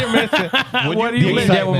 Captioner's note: laughing